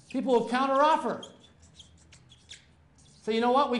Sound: marker squeaking

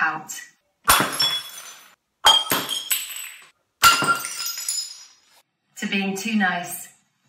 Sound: glass smashes three times

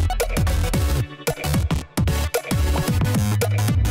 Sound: haha

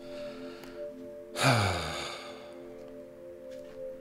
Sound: sighs

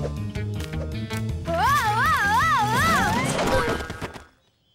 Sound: yelling

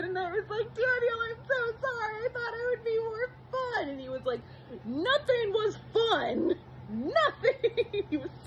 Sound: giggles

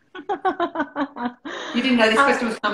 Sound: laughter

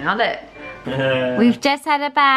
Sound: laughs

